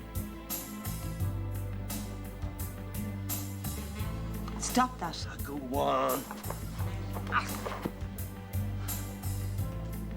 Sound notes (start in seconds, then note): 6.2 gemidos